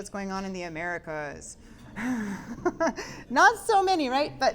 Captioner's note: giggling